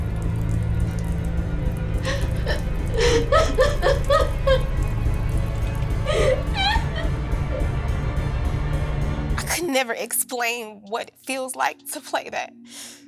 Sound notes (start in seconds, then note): 0.5 crying